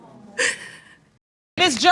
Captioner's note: sighs